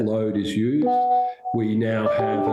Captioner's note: computer chimes